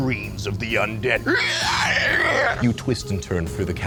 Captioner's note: man screaming